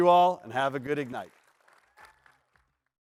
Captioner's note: applause